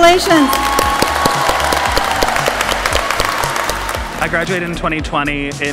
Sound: audience applauding; audience cheering

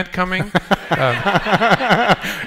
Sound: laughter

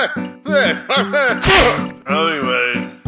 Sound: s l a p

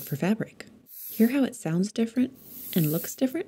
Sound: ink crackles

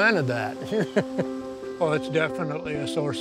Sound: chuckles

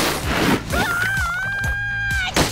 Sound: screaming

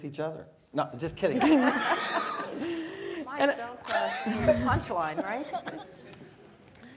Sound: laugh

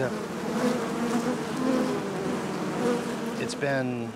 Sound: bees buzzing

